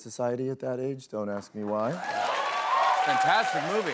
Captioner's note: cheers and applause